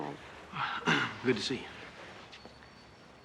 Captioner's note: clears throat